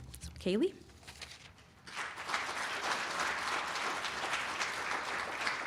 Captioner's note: applause